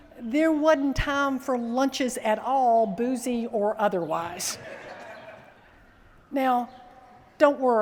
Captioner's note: laughter